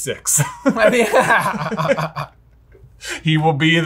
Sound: both laugh

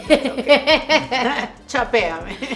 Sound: laughter

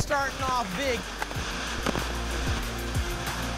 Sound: static

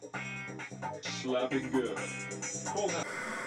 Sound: man on tv speaks

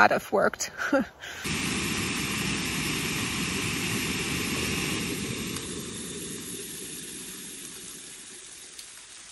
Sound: laughs; sound of stove and boiling water

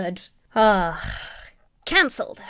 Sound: sighing

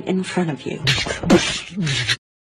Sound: violence sounds

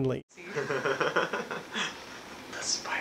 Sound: laughing

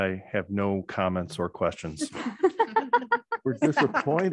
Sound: board members laughing

